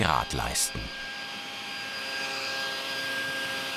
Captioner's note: sounds of sawing